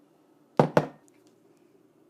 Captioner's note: cup hitting counter